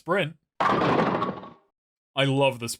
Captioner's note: bowling pin strike sounds